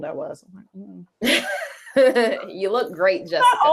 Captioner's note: both laugh